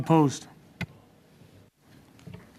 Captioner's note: speaking French